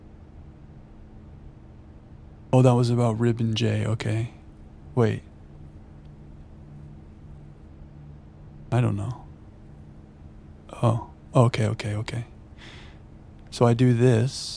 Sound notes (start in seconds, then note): none